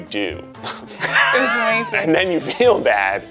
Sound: laughs

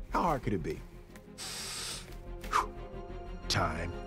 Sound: deep breath

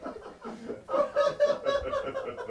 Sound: muffled laughing

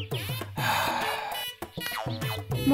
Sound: sighs

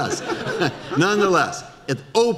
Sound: audience laughter

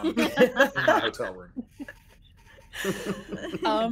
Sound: person laughing

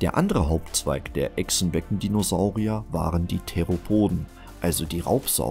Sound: in German

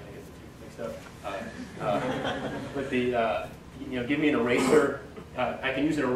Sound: audience laugher

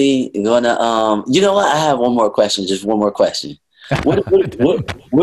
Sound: Sadhguru laughs

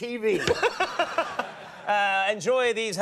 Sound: laughter

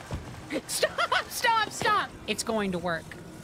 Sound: laughing

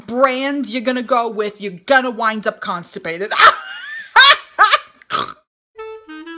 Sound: laughs

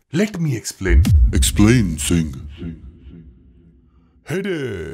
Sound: echo

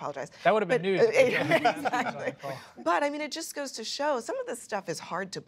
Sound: laughter

